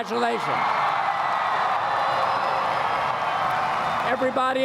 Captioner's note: applause